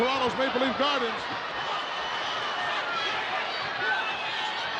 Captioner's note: crowd yelling